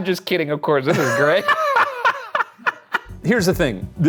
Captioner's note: both laughing